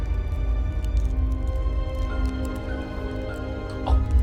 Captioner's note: gagging